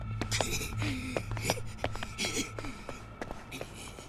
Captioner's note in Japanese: 笑い